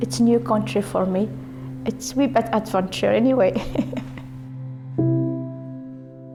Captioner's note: laughs